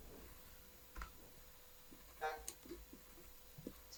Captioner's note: none